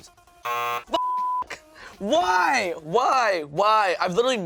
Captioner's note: beep